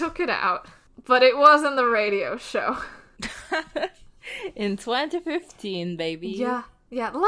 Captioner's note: laughs